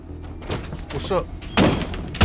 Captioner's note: door opens; intimidating orchestra music